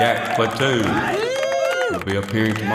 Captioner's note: cheering